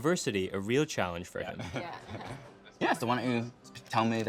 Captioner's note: laughing